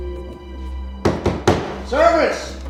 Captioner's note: thuds